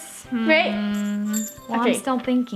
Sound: bell tinkling

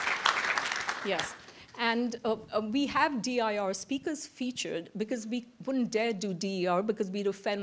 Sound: applause

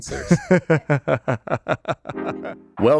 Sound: laughing

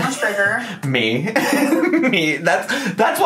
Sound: laughs

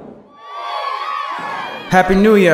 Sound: cheering

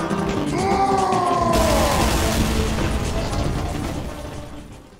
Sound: annoyed booing, followed by various explosions

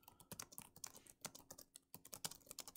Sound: typing

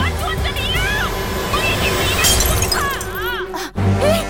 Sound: Malay Language; bottle breaking sound

